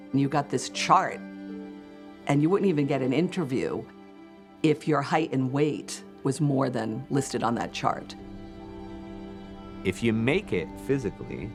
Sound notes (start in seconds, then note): none